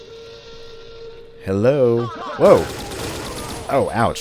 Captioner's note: M16 firing